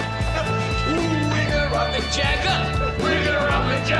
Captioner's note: singsong voice